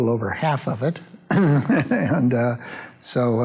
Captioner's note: laughs